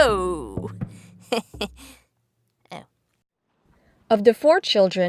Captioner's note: laughing